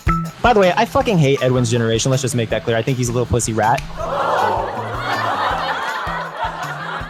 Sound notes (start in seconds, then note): 4.0 audience gasp & laughter sound